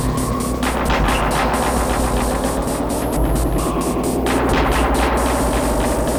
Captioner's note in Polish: Nasilające i wznoszące się ciągłe dudnienie